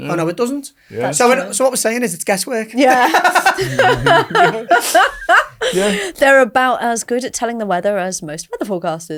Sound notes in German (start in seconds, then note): 2.8 lachen